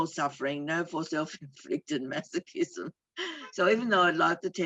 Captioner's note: chuckles